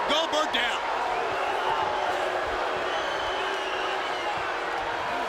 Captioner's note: mixed crowd reaction